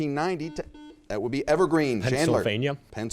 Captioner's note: buzzer chiming